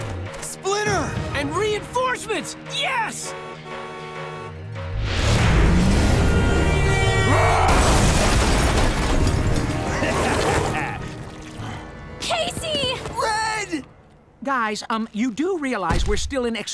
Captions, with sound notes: -Splinter! -And reinforcements, yes! [horn honking] [horn honking] [roaring] -Casey! -Red! Guys um, you do realize we're still in extraordinarily